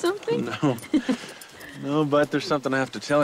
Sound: Dori laughs

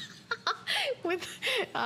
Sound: laughter

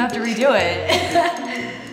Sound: laughs

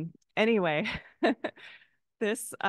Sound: chuckles

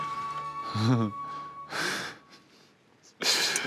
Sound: giggles

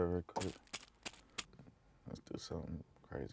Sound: plastic crinkles

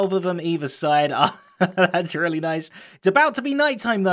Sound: laughing

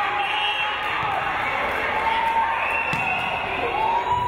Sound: crowd cheering

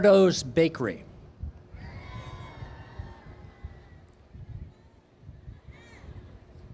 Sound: cheers

